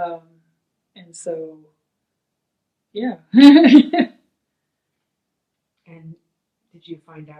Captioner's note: laughs